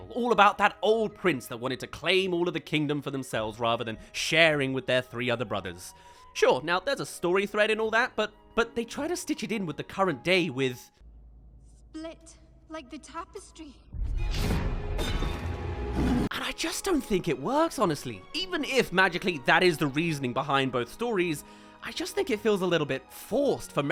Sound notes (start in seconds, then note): 14.2 roars